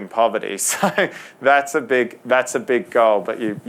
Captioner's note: laughs